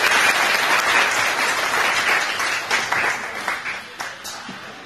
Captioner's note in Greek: χειροκρότημα